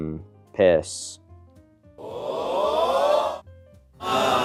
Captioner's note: Wii Sports crowd; dissapointed